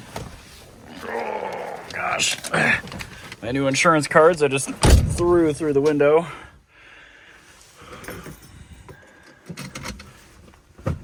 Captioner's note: groans